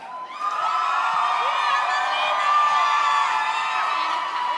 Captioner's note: audience cheers